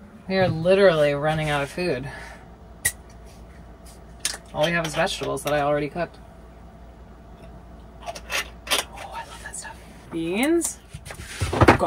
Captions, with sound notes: We are literally running out of food. (pop) All we have is vegetables that I already cooked. Oh, I love that stuff. Beans,